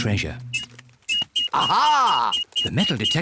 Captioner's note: beeps quickly